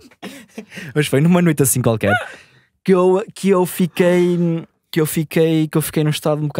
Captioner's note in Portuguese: risos